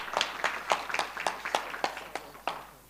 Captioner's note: applause